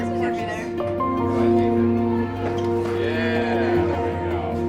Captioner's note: construction sounds